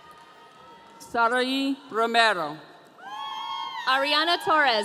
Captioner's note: audience cheering